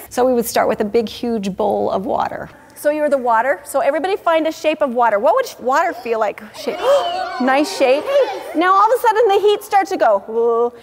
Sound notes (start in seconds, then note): 6.4 children vocalizing